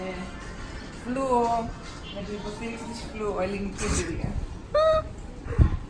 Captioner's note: giggles